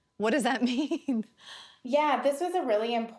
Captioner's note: chuckling